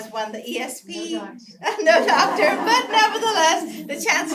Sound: laugh

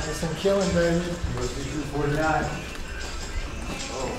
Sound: chatter

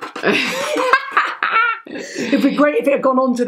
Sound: laughing

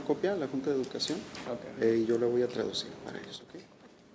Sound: speaking Spanish

